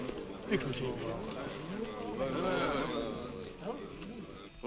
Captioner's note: group chattering